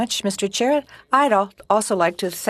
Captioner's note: speaking in French